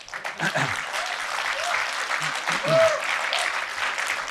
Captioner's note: audience applauding